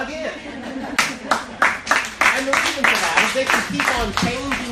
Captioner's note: applause